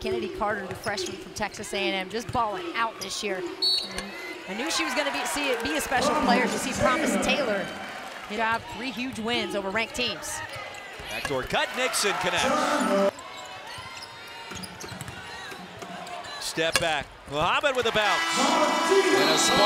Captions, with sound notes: Kennedy Carter the freshman from Texas A&M just ballin' out this year. [Whistle] I knew she was going to be a special play to see Promise Taylor. Three huge wins over ranked teams. Backdoor cut, Nixon connects. [Game Noise] Step back, Muhammad with the bounce. [Buzzer]